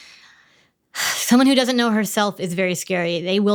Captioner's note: sighs